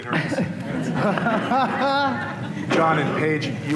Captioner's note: laughter